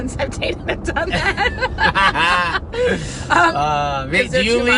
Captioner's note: laughing